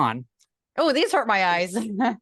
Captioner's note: laugh